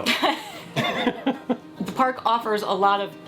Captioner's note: laughing